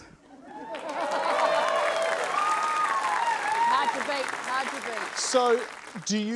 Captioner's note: cheering, applause